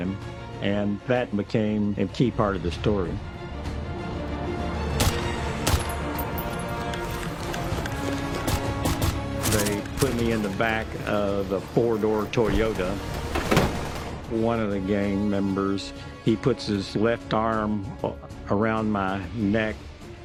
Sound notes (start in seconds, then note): 4.9 gun shots